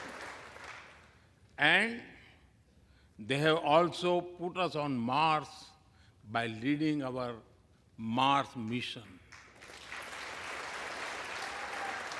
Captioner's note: applause